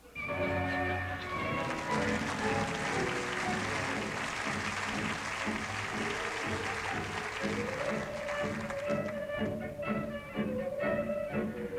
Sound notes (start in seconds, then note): 0.1 tango music plays; 2.6 applause